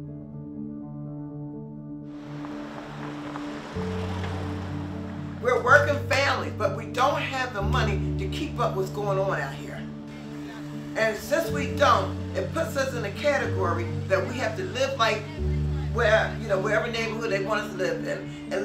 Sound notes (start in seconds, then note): 0.8 somber piano music; 2.2 cars rushing